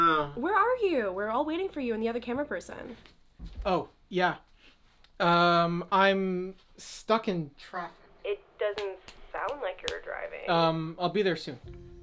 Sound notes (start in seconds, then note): 4.4 sniffs